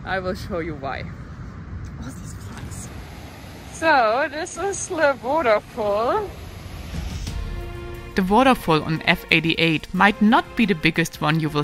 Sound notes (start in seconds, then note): 2.8 waterfall rushing